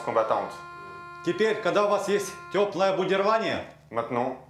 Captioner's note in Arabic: الصوت المنطوق بالروسية